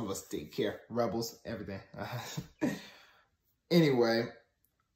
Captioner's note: laughs